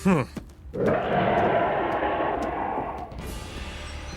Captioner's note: distant roar